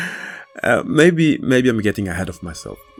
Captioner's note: laughs